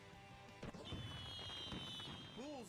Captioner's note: fireworks popping